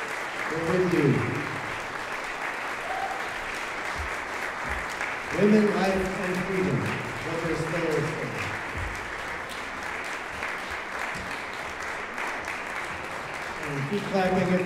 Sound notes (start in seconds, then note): 10.8 applause